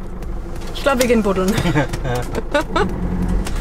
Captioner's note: laughter